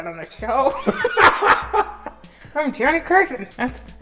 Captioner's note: hysterical laughter